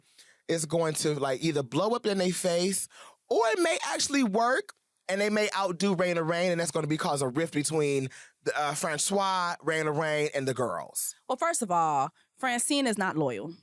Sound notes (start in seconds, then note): none